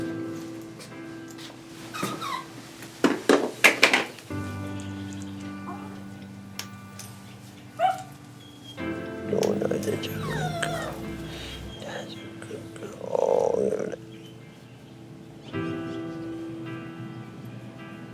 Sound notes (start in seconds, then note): 7.8 Luna barks; 15.3 sullen music